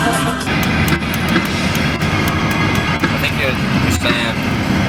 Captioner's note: radio static